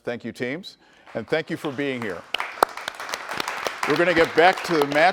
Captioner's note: audience applauds